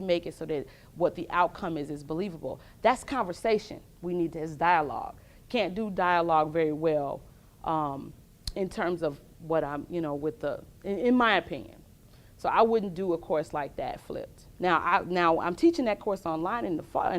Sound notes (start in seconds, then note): none